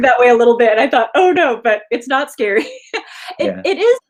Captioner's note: laughs